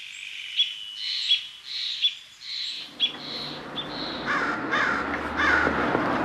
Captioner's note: birds